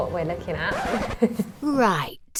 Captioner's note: record scratch